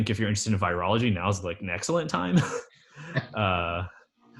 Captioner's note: laughs